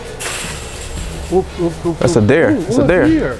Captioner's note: chain link fence rattles